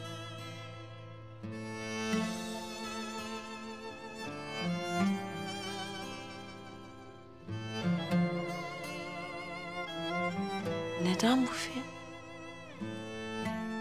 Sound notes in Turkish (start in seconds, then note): none